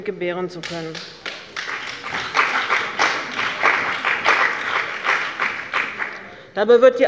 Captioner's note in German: Beifall bei dem BÜNDNIS 90/DIE GRÜNEN und der CDU